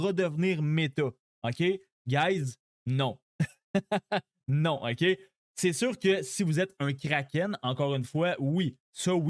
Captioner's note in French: rires